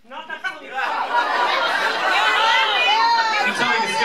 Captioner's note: laughter